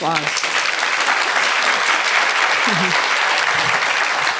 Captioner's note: audience applauding